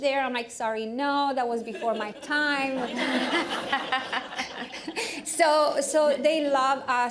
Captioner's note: laughter